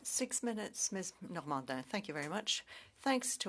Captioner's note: speaking French